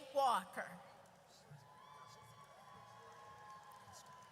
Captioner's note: audience cheers